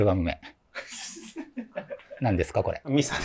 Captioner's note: laughing